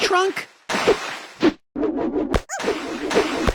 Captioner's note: wind whipping; water splashes; animal squeaks